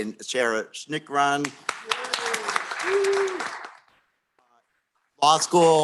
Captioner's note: applause